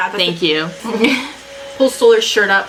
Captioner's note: laughs